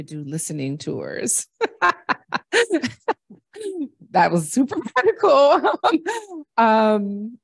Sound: laughter

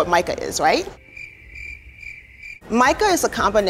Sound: crickets chirping

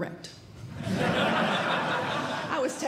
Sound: audience Laughing

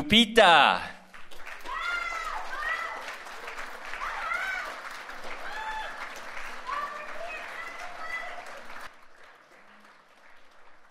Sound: applause

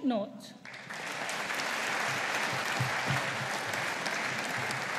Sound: audience applauding

